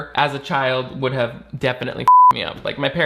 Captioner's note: beep